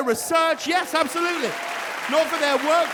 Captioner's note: audience cheers and applauds